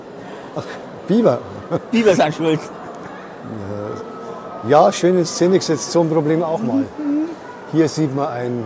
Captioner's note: laughs